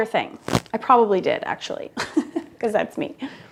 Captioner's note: laughs